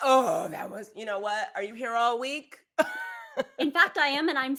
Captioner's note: laughs